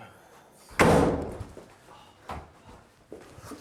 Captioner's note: door bangs